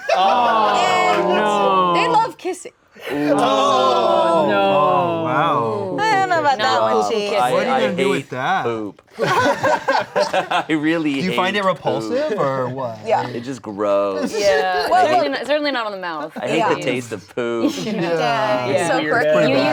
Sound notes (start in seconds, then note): 9.2 everyone laughing